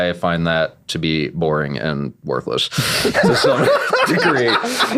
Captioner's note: laughing